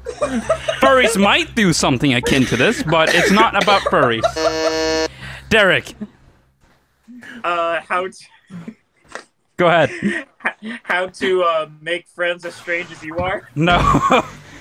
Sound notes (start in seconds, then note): 1.9 group laughter; 4.3 buzzes; 8.8 cracks up; 13.7 laughing